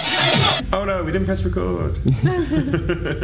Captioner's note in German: lacht